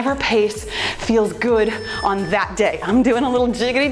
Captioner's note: timer beeps